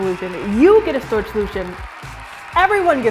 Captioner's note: audience cheers and claps